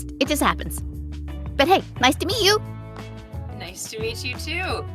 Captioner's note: none